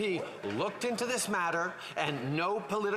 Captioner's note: applause